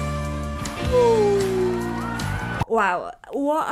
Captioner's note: audience cheering